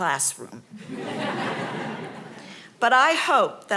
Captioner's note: audience laughing